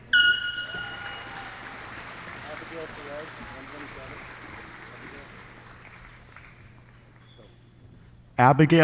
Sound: applause

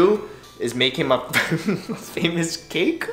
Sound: giggles

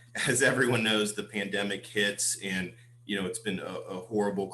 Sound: laughter

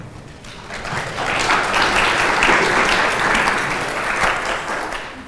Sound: audience clapping

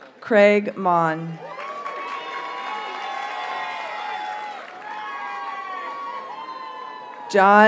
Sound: audience cheers and applauds

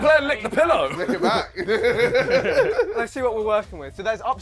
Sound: laughs

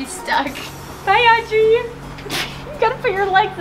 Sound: laughs

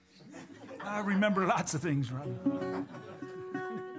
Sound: imitating elderly voice; laughter

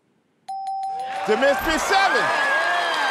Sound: bell dinging; cheers and applause

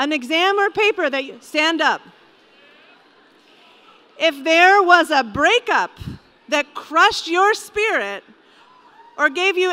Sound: low cheering from audience

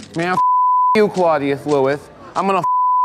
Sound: beep

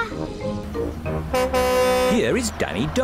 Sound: horn honks

